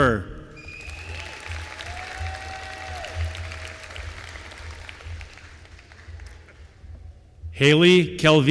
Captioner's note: applause